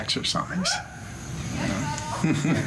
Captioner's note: laughs